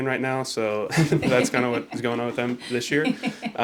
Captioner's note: laughs